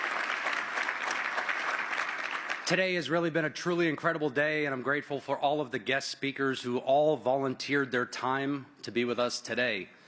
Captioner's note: applause